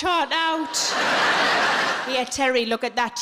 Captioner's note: audience laughing